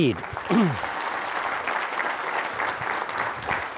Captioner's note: audience clapping